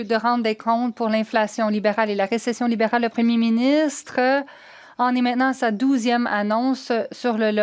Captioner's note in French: voix de l'interprète